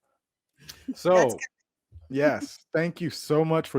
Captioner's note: laughs